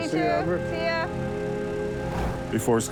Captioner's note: screen whooshes